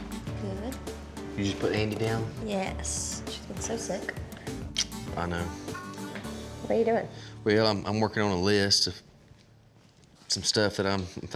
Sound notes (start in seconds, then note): 4.4 smooch